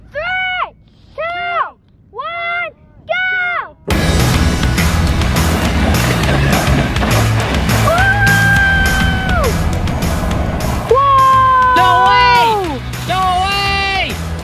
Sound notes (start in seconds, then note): 3.9 high-spirited music; 7.8 cheers